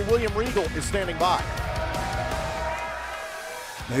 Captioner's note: crowd cheering